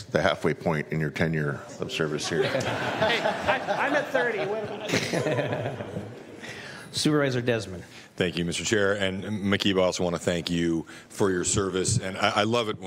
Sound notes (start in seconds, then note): 6.5 laughter